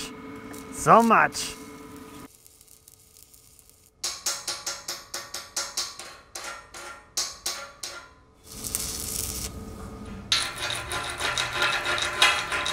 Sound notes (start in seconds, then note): 4.0 metal banging; 10.1 metal rattling